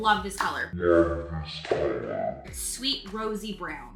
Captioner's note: sound distorting